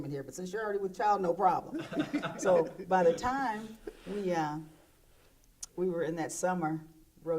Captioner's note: laughter